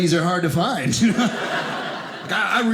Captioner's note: audience laughing